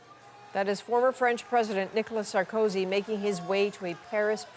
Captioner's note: yelling